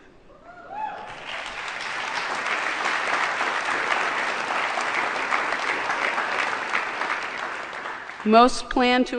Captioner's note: applause